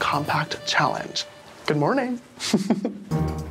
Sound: chuckles

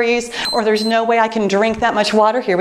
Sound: timer beeps

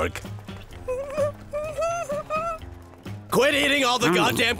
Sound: whimpering

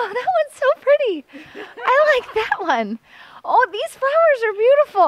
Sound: sing-song

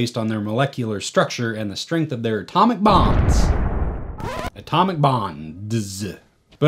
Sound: explosion

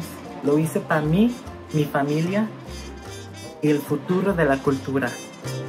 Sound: speaks in foreign language

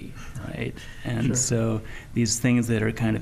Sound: chuckling

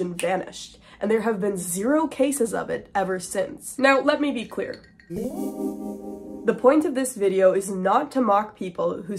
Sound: vanishing sound effect

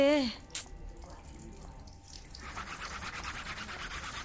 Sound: water pouring; scrubbing

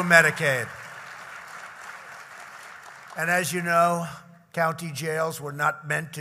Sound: applause

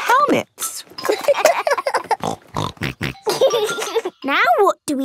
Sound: laughing; snorting

